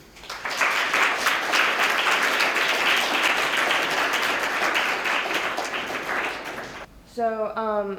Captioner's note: applause